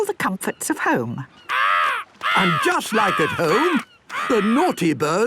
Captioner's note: seagull cries